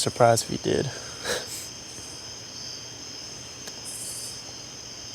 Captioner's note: Tex wryly chuckles